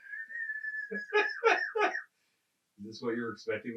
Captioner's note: laughing